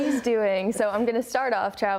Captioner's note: laughs